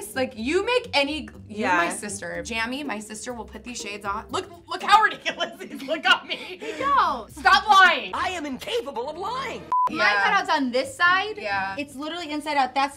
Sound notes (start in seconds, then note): 5.1 laughs; 9.6 beep